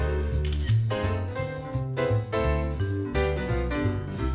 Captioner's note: camera clicks